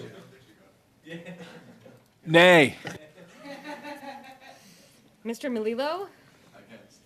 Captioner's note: some Laughter